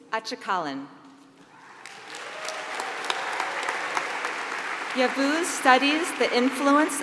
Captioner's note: applause